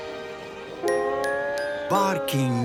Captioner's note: barkings